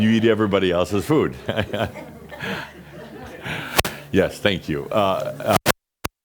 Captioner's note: lots of laughter; Adamus chuckles